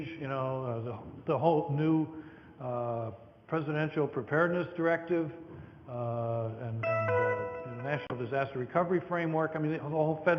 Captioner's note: computer tone